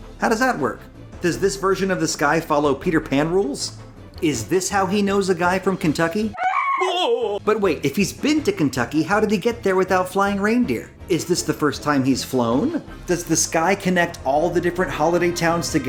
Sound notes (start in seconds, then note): 6.3 screams; 6.4 man whimpers